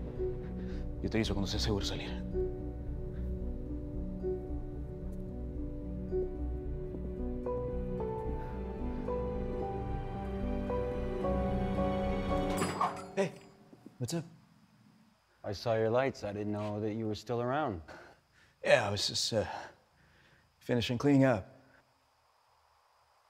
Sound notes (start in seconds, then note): 0.8 Spanish